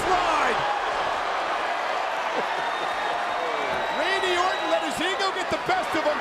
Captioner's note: applause